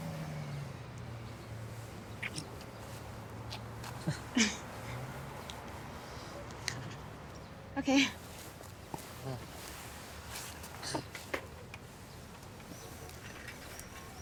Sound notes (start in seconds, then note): 4.0 both chuckle; 11.4 Anthony chuckles